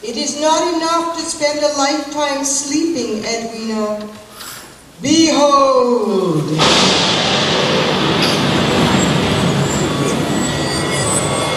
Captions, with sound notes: It is not enough to spend a lifetime sleeping, Edwina…behold! (thunder)